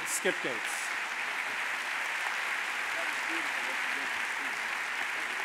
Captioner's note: audience applauding